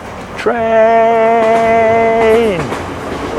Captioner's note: train noises